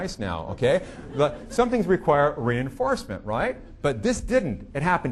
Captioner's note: audience laughing